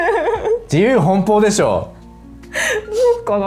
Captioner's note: laughs; laughs